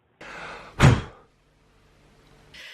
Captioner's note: blow